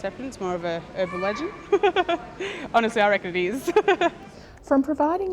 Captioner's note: laughs